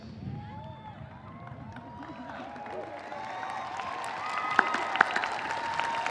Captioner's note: audience cheering; audience applauding